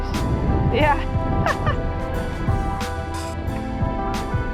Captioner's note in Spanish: risas